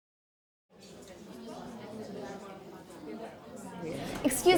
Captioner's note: people chattering